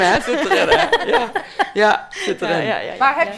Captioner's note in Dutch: lachen